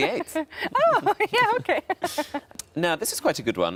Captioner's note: laughs